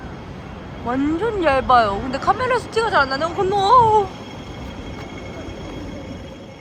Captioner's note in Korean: 살벌한 홍콩 신호등소리